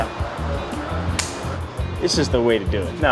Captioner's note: slapping